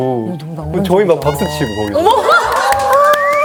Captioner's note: applause